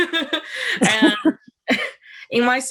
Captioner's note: chuckles